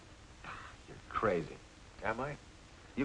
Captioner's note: scoffs